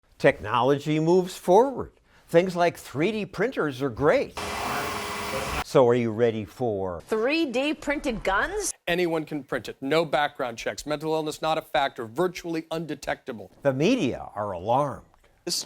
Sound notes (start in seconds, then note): 4.4 printer whirring